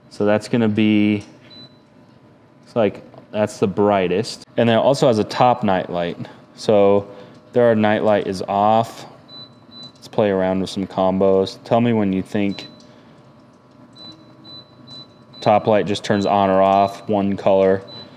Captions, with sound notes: So that's gonna be, it's like that's the brightest. And it also has a top nightlight. So there nightlight is off, let's play around with some combos. Tell me when you think. (firebox beeping) Top light just turns on or off one color.